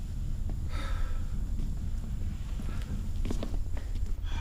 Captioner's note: Monte sighs